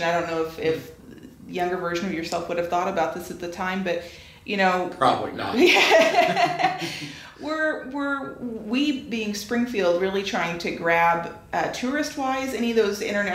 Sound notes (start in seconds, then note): 5.7 laughing